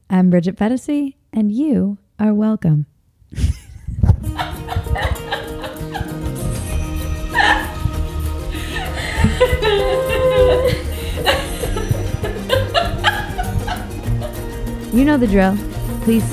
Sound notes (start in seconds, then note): 3.4 laughs; 7.3 upbeat music